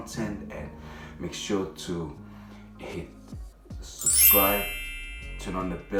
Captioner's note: bell chimes